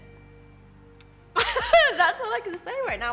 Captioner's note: laughs loudly